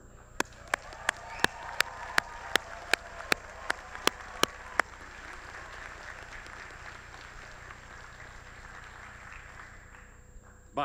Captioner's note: applause